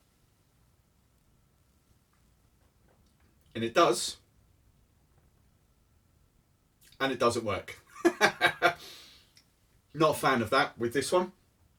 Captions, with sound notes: And it does, and it doesn't work. (laughs) Not a fan of that, with this one.